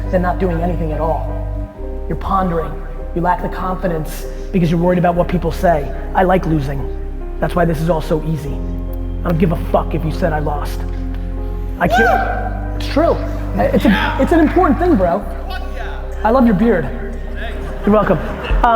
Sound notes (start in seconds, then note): 11.9 audience yell; 13.7 audience yell